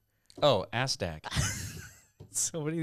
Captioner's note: laughing